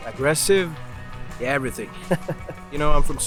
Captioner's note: laughs